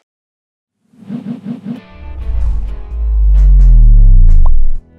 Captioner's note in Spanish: Efectos de sonido, música